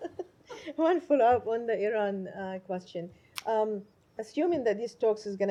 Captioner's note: laughter